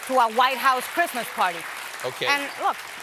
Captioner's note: applause